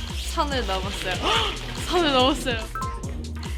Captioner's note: gasp